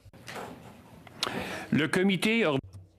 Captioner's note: speaking French